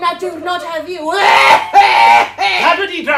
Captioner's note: coughs